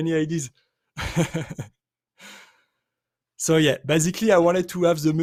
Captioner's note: chuckles